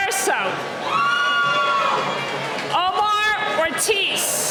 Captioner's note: cheering